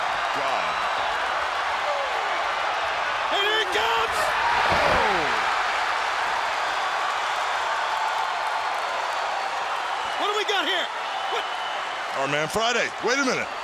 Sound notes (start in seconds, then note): 0.0 crowd cheering; 4.7 crowd cheering